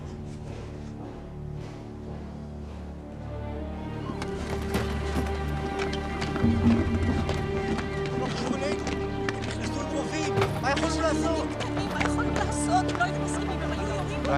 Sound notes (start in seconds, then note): 10.1 raised voices